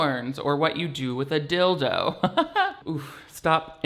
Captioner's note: laughs